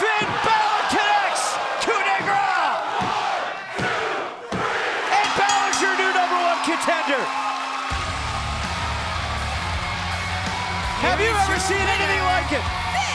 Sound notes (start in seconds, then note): 5.2 bell rings; 7.7 rock music plays; 8.5 crowd cheers